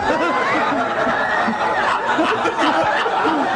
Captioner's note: laughter